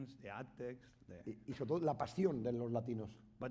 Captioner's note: speaking spanish